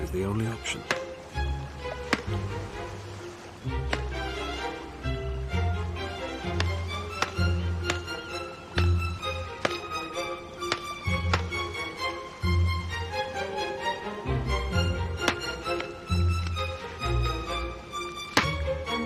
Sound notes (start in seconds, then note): 1.7 graceful music; 10.5 pounding